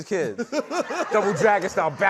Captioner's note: laughter